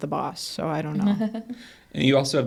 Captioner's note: laughs